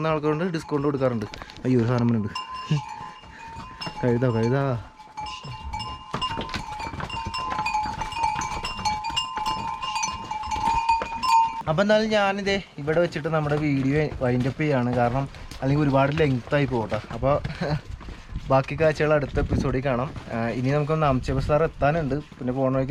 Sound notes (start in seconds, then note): 7.7 cow bells